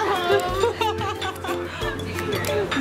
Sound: laughs

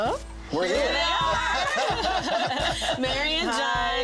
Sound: all laughing

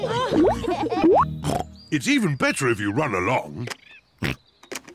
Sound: all laugh; oinks; oinks

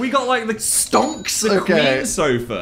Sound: cash register noise

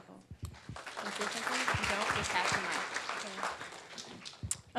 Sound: attendees applauding

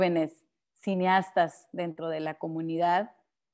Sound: speaking Spanish

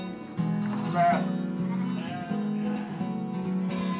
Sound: bleating

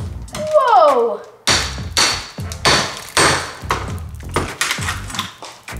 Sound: banging

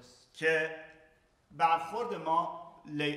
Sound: speaking in farsi

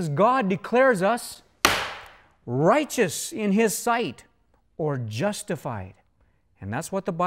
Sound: bang!

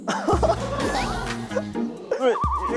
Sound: cracking up

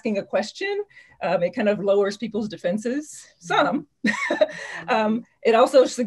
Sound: laughs

